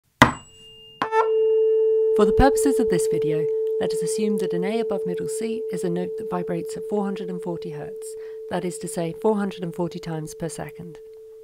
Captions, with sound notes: [ding a tuning fork] For the purposes of this video, let us assume that an A above middle C is a note that vibrates at 440Hz, that is to say, 440 times per second.